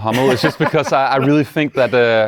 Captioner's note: laughs